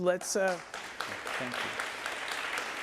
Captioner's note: audience applauding